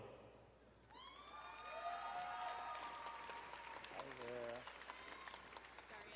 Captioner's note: crowd cheering and applauding